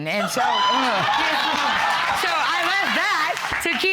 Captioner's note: audience laughing